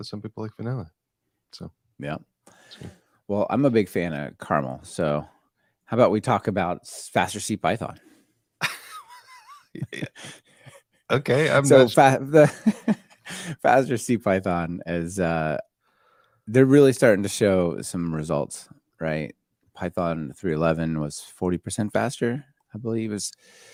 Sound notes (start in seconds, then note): 8.6 laughing